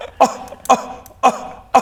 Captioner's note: scoff